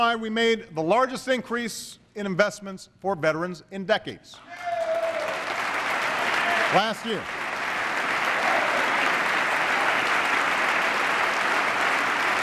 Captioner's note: applause